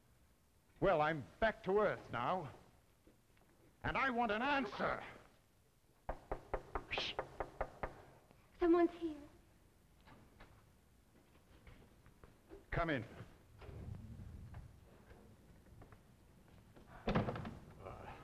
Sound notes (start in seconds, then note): 6.0 knocking at door